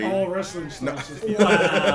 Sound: laugh

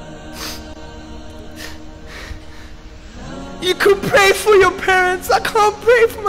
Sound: sobbing

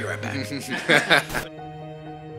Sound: chuckling; inspiring music

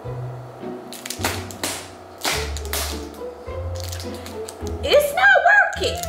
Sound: bangs; playful orchestral music

